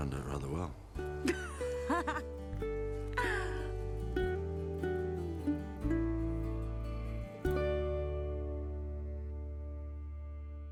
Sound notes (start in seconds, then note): 1.2 Kate laughs; 1.7 gentle music